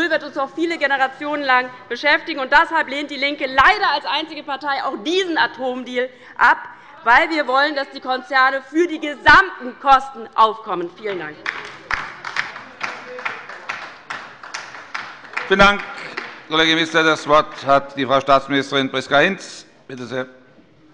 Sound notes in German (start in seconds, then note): 11.1 Beifall bei der LINKEN